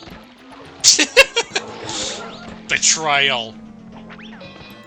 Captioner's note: laughing